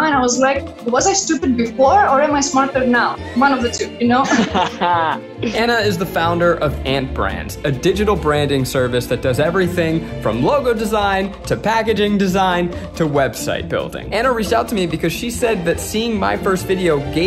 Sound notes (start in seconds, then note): 3.4 laughing